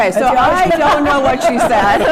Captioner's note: laughter